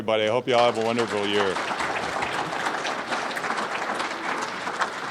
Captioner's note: applause